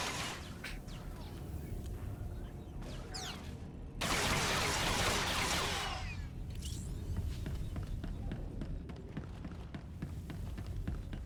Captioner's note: gun firing